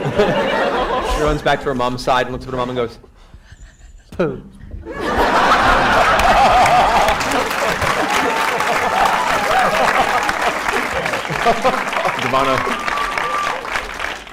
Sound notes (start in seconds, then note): 4.8 laughter